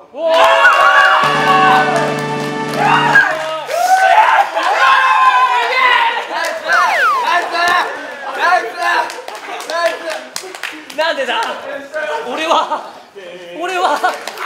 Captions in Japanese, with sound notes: うおおーーーーー！！！！！！！！！ 拍手 ッシャア！！ 照ーーー！！！ すげえ！ ナイスー！ (効果音)ピュー↓ン 佐久間弾かれる音 ナイスー！ナイスー！ナイスー！ 何でだ…俺は…俺は…！